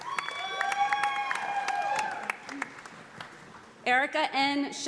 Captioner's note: audience applauding